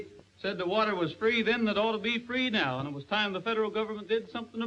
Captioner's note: none